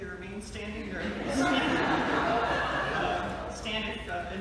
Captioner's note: laughter